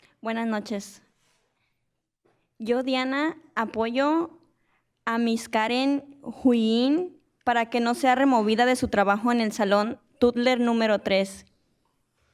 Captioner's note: speaking in spanish